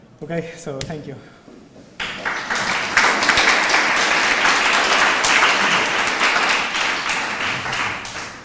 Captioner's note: applause